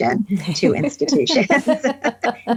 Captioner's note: all laughing